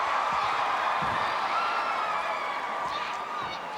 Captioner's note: crowd cheering